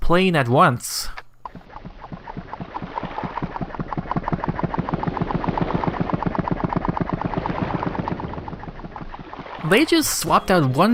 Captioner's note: pump and water sound play at the same time